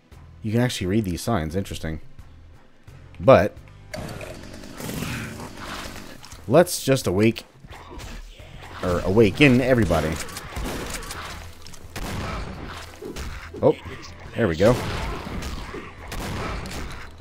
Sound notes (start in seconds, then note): 9.2 shotguns blasting